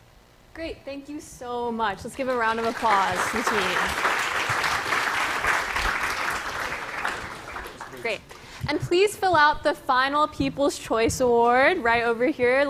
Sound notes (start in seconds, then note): 3.9 applause